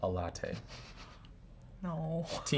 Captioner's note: giggling